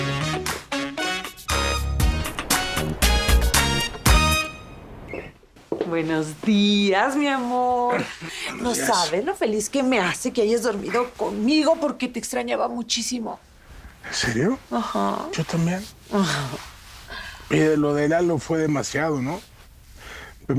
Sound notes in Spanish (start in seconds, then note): 15.9 Ríe